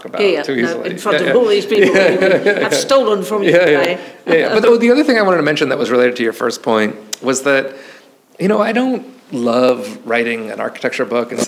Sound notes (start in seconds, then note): 1.2 laughing; 5.0 chuckles